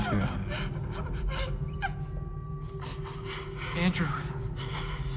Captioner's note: Gloria crying